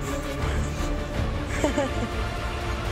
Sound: laughing

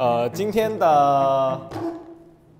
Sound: thump!

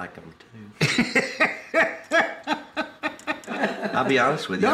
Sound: laughs

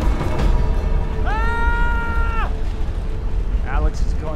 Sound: Alex screams

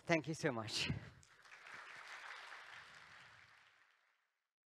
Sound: applause

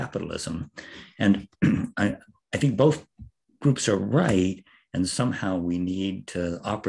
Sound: cough

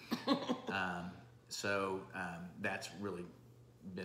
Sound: laughing

